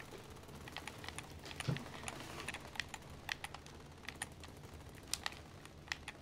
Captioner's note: rattling gunfire from video game